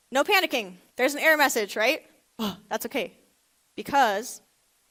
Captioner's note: gasps